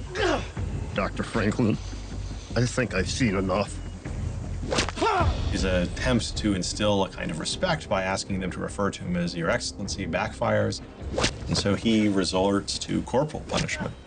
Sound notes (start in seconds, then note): 4.6 whip whooshes; 5.0 soldier cries out